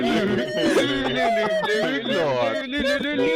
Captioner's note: cackling